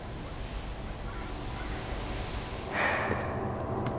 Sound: high pitched whining

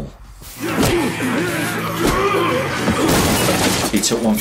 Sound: air whooshes; people groan; table crashes

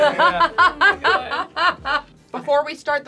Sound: more laughter

